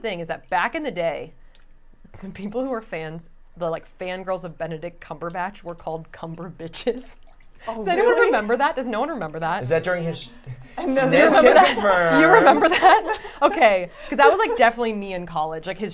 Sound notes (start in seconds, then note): 10.6 laughing